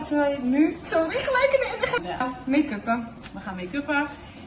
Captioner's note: giggling